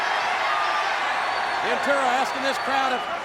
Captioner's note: crowd cheering